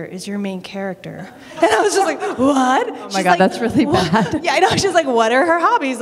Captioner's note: laughter